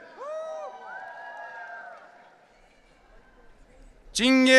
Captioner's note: audience cheering